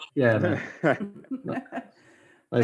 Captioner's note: laughs